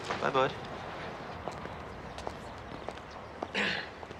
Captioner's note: clears throat